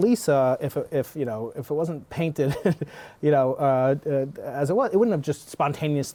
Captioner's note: laughter